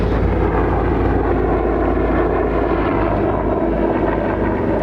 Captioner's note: helicopter engine